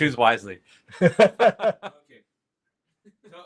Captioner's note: laughter